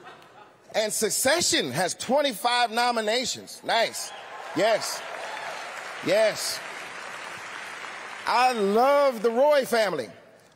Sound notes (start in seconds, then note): 3.9 cheering; 4.1 applause